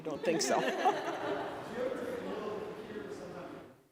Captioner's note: laughter